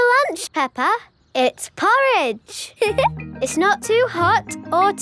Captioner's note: giggles